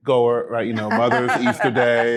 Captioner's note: laughing